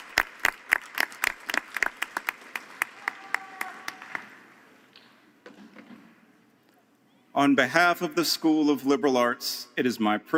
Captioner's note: applause